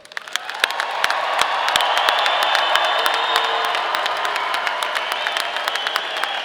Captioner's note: audience applauding; audience cheering